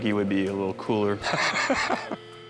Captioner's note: laughs